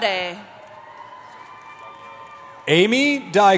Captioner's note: cheering